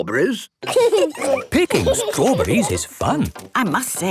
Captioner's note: laughing